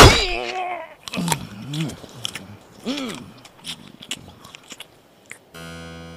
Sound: chopping with conviction; greedy gobbling

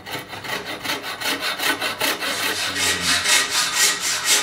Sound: first light, then darker sawing noises

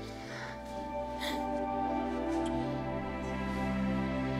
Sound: sighs

